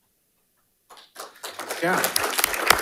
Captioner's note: audience applauding